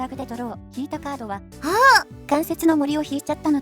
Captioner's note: gasps in Japanese